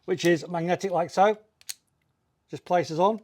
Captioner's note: buckle clicks